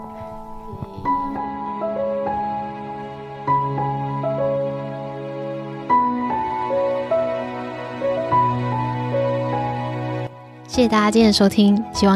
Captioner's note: speaking chinese